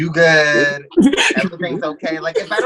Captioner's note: laughs